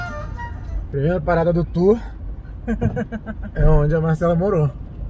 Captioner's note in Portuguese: risada